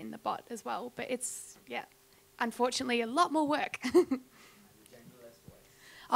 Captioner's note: chuckles